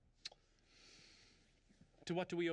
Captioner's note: kisses